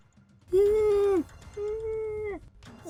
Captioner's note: muffled screaming